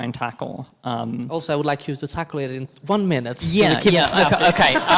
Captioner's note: all laughing